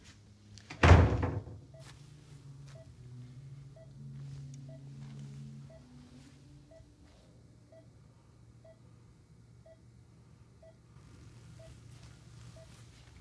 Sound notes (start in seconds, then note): 0.7 door bangs closed; 1.9 heart monitor beeps rhythmically